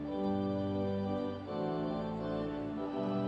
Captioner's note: none